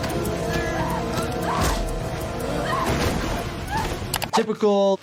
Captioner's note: person screaming